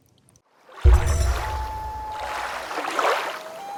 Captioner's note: water rushing, loon calling